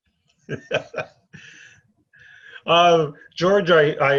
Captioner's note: chuckles